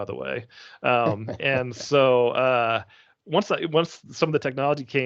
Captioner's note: laughing